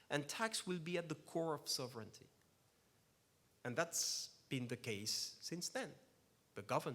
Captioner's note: none